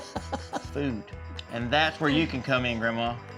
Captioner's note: laughing